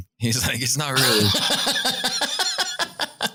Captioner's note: laughter